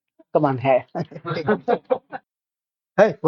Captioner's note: laughs